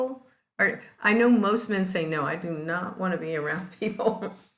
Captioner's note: laughs